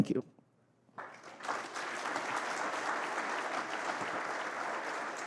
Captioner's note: applause